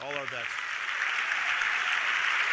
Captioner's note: audience applauding